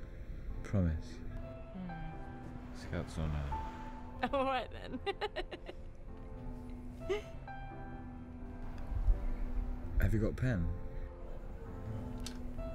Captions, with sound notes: - I won't. Promise. - Hmm. Scout's honor. All right, then. [laughing] Have you got a pen?